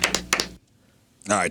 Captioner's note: clapping